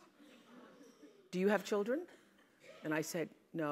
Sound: laugh

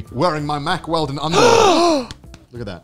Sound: gasp

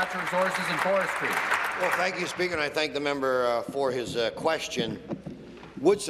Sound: applause

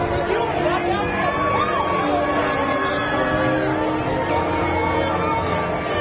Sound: speaks faintly

